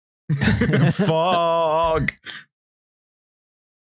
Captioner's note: laughter